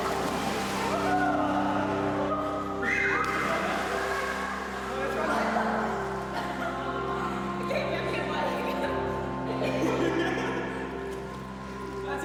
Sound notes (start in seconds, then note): 0.0 water splashes; 3.5 shrieks, water splashes; 6.3 laughter